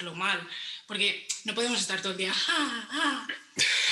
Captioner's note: laughs